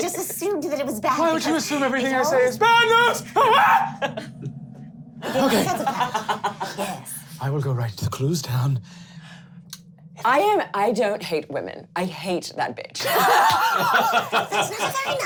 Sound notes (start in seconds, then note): 2.6 screaming; 5.2 laughing; 13.0 laughing